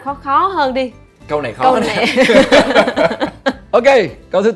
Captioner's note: laugh